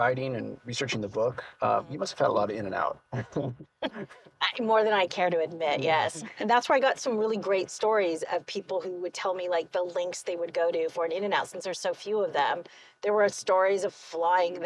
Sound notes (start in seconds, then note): 3.1 laughs